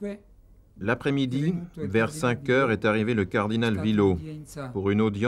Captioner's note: Italian spoken audio